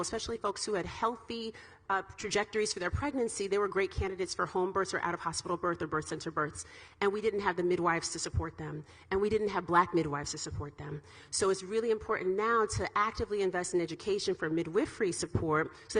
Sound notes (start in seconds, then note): none